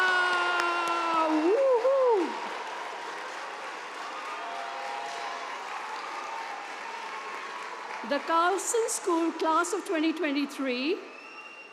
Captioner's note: cheers and applause